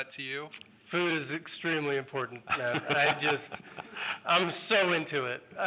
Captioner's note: laughter